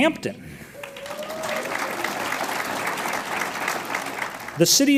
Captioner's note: audience applauds